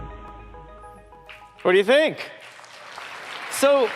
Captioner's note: applause